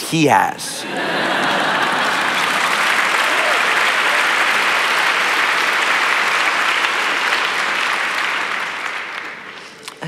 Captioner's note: laughter And Applause